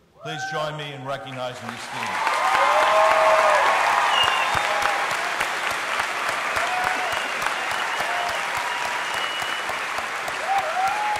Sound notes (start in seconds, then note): 1.6 audience cheering; 3.1 audience applauding